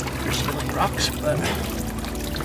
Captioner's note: water splashing